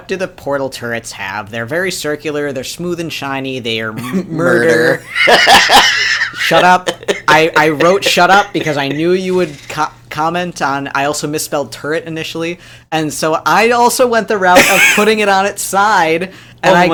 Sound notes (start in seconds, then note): 4.4 laughs